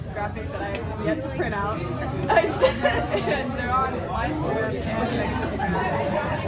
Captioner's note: laughs